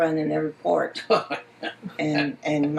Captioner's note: laughs